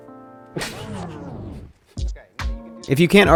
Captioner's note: laughs